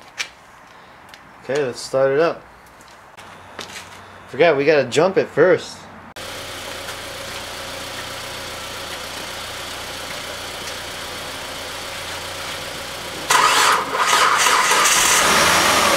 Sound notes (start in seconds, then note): 12.4 car Starting